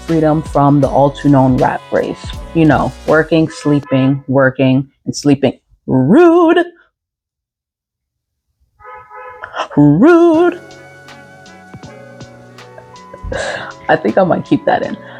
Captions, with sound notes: I mean freedom from the all too known rat race. You know. Working, sleeping, working *rude car horn* *Extra rude car horn* I think I'm going to keep that in.